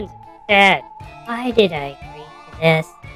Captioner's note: whispering to himself